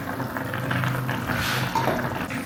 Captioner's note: Boiling away